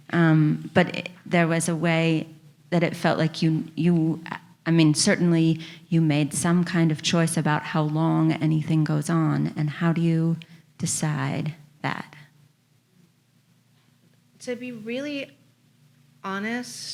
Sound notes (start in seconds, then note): none